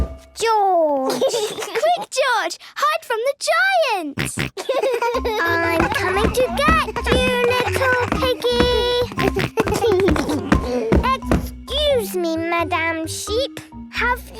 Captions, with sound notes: George! - Quick, George! Hide from the giant! (giggles, snorts) - I'm coming to get you, little piggy! (giggles) Excuse me, Madam Sheep.